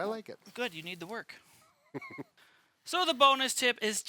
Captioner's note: laughing